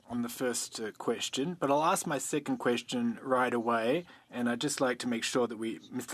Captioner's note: speaking French